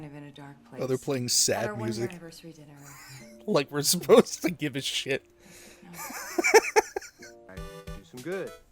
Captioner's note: wheeze; wheezing laughter